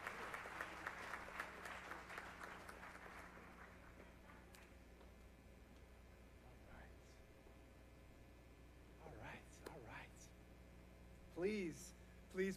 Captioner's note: applause